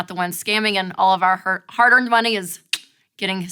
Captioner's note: clicking